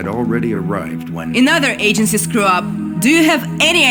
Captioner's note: interrupting